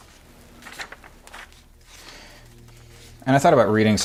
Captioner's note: page flapping